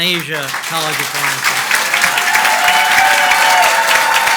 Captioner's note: audience applauds